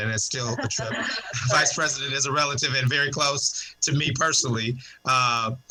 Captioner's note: laughter